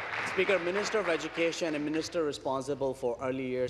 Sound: applause

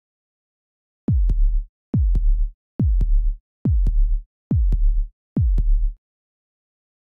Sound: sound of heartbeat

